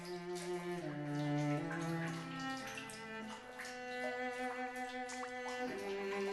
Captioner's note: water leaking continues